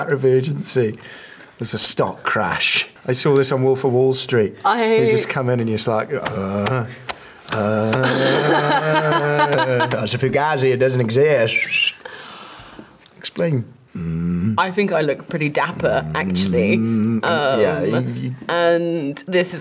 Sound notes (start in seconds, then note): 7.5 chants; 10.1 Mimics Matthew McConaughey